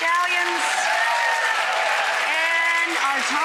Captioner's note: crowd cheers